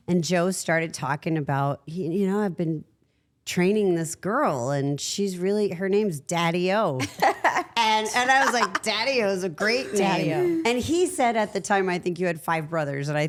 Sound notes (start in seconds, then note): 7.0 Liv laughs